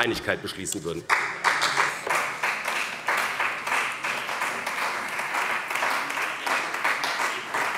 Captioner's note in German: Beifall bei dem BÜNDNIS 90/DIE GRÜNEN und der CDU